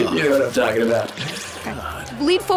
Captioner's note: laughs